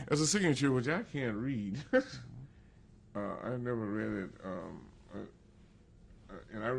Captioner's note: laughs